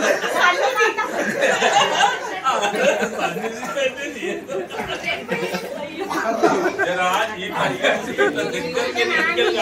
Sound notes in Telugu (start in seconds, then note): 0.0 నవ్వు